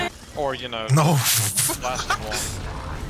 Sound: bursts into laughter

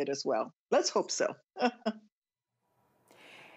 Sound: laughter

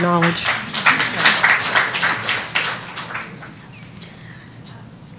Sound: audience applauding

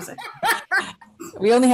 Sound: laughing

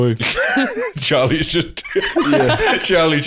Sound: laughing

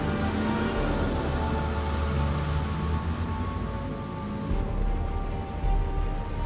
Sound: engine slows down; light rain; ominous music

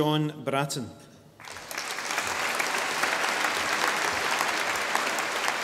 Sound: audience applauding

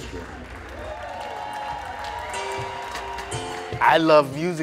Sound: audience clapping

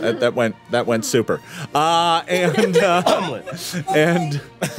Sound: group laughing

